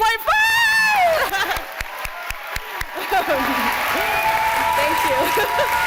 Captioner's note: applause